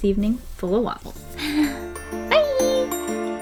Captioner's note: happy sigh